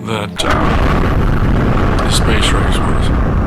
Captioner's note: rocket roaring